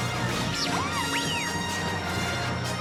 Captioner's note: whistles, Chirps